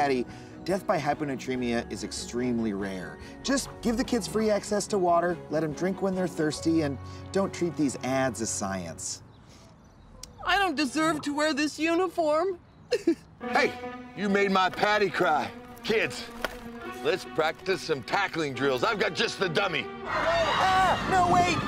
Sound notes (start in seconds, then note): 12.9 sobbing